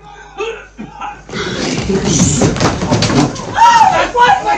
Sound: sound - footsteps are heard

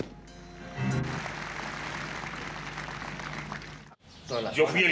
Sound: applause

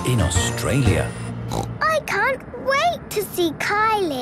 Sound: snorting

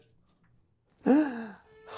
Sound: gasp

